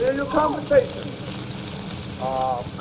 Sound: Bess gasps

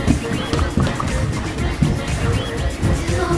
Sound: footsteps

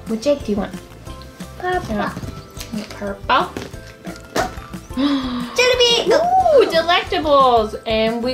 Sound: gasp

